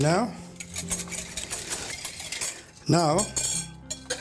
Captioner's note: whisking